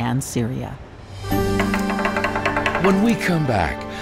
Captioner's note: stick tapping